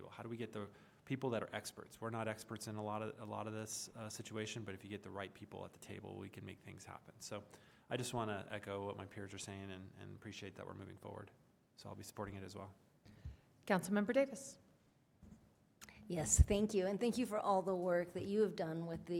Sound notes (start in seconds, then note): none